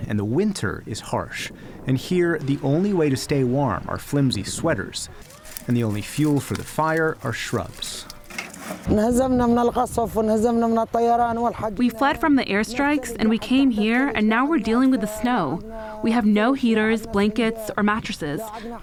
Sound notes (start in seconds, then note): 9.8 through translator